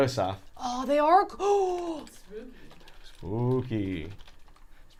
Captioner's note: gasps